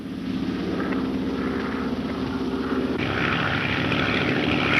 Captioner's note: engine roaring